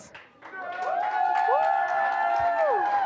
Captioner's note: applause